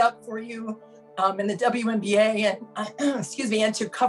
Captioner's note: clears throat